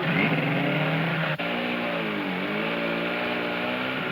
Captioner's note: engine roaring